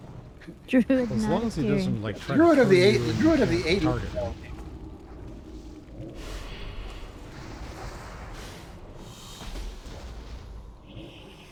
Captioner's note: wind blowing